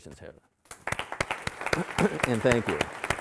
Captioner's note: audience applauding